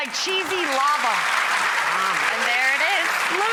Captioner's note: audience applauds